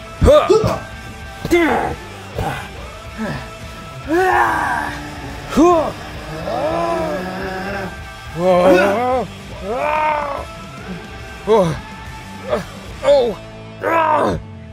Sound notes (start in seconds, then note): 2.2 boggo boogo grunts; 4.0 telepa-bear wails; 4.2 yells; 9.4 screams; 11.2 groans